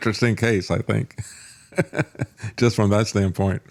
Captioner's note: laughs